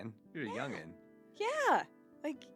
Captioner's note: laughs